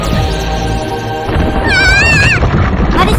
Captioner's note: screams